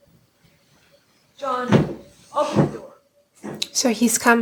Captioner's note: fist pounding